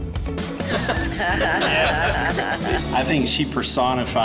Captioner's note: coaches laughing